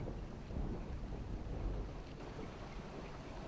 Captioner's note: thunder looms